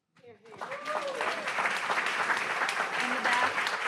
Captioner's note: audience applauds